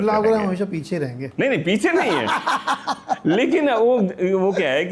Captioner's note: laughter